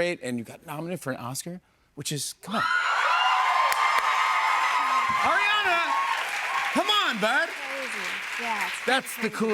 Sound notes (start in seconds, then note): 2.6 cheers and applause